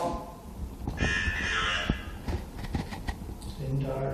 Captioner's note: electronic Voice